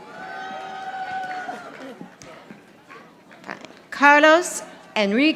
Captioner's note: audience applauding